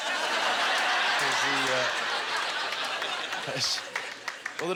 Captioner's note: audience laughter